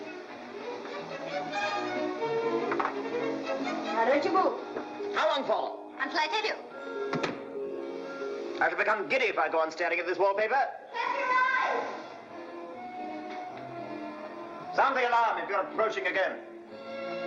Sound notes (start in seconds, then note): 0.2 playful music; 7.0 door closes